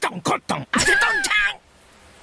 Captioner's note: snickers